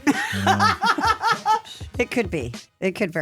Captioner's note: Steph laughing